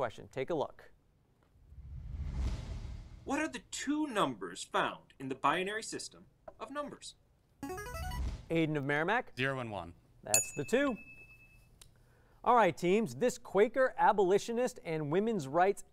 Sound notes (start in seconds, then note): 7.7 player buzzer; 10.3 ding